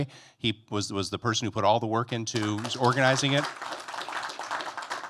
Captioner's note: applause